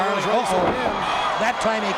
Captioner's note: commentators exclaim